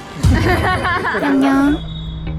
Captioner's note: fake laugh; real laugh